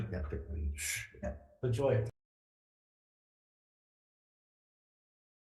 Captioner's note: members speak faintly